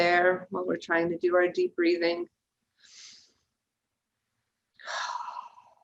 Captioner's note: breathing deeply